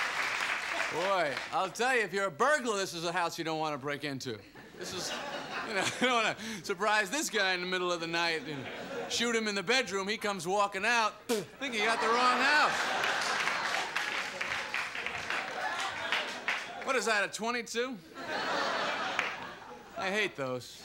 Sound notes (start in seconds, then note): 11.2 spits; 11.7 laughter and applause